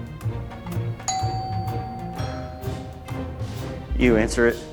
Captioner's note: doorbell rings